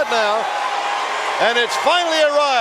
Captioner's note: crowd cheering